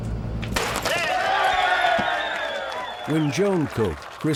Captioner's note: group cheering